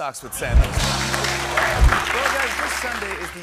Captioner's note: cheers and applause